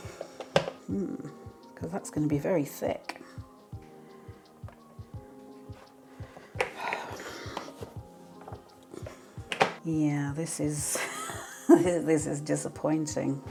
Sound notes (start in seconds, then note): 3.3 plasticky clicking and a sigh